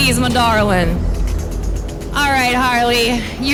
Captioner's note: wheel clattering